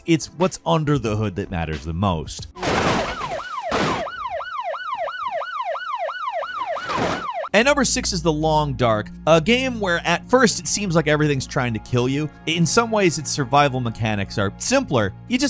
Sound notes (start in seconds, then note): 2.5 cars crashing; 2.9 sirens blaring